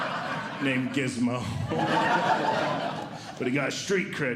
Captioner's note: audience Laughing